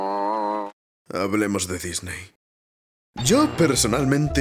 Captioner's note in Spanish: vomitos no muy agradables